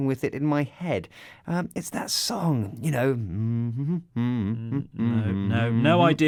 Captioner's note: hums some kind of pop song